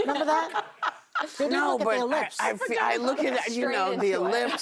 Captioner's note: laughter